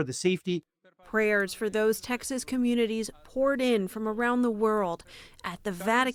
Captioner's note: voice-over